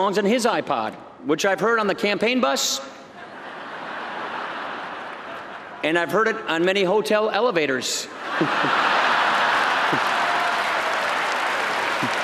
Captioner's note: laughter